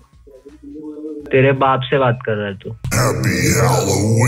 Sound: swearing in Hindi

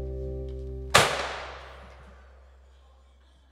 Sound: balloon pops

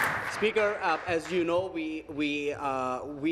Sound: applause

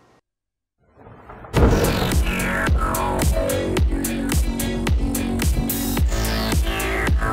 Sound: thunder clapping; upbeat rock music

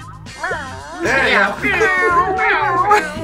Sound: mewing

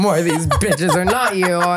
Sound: laughing

